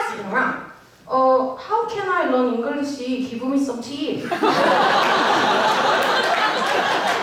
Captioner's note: in thick Korean accent